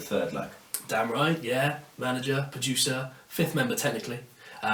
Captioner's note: clicks tongue